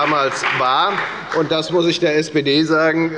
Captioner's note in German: Beifall bei der FDP